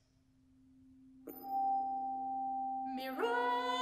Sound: chimes

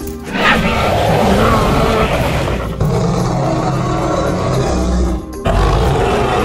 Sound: Sauropelta growls

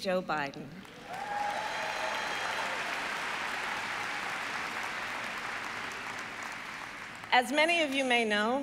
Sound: applause

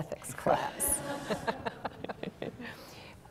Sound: laughter

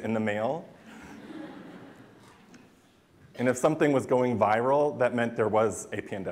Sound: laughter

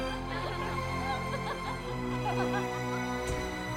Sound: laughter

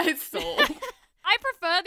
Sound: laughs

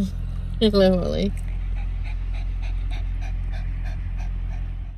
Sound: giggles; dog pants

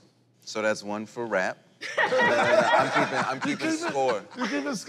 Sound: laughter

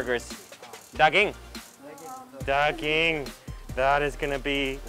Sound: speaking in foreign language

